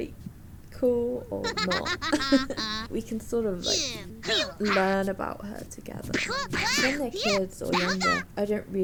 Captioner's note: laughs